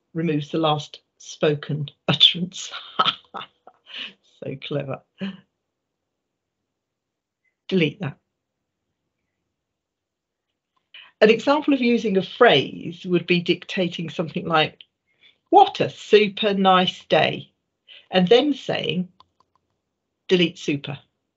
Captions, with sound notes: removes the last spoken utterance. (laughing) So clever. Delete that. An example of using a phrase would be dictating something like, what a super nice day, and then saying, delete super.